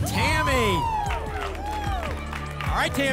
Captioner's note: applause and cheering